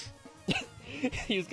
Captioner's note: laughing